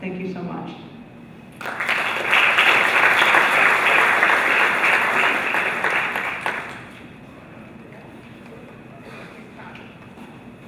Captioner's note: applause